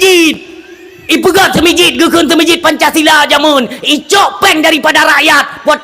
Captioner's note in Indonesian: tertawa